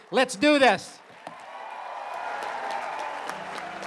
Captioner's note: cheering